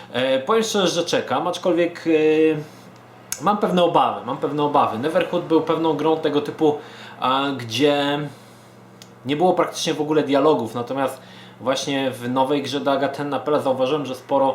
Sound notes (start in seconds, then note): 8.3 stutters